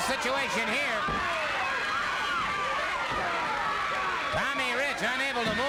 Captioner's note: crowd yelling